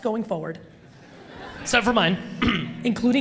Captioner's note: audience laughs